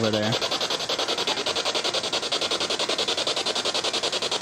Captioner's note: machine chiming